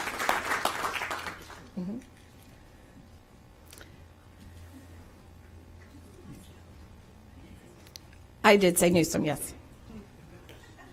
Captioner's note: applause